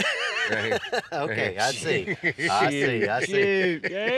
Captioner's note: chuckles